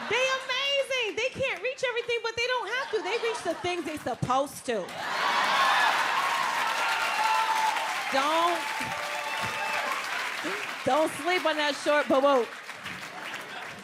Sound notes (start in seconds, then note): 4.9 audience cheers and applauds